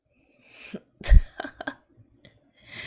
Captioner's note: laughs